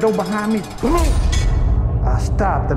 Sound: cell door slamming

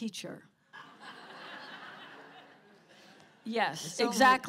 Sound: laughter

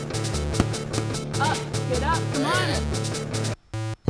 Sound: squealing

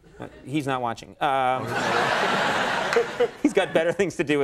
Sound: audience laughs

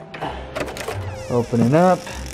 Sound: door creaks open

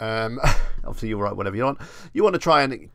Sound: chuckles

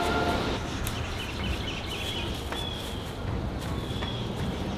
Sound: birds chirping

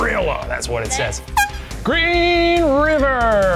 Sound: air horn beeps

